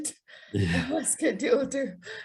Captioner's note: chuckles